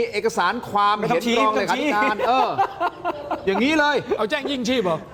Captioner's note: laughter